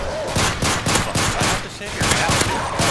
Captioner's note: grumbling